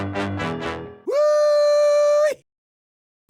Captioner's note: texan cheer